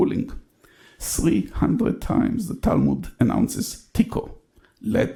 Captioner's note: speaks in foreign language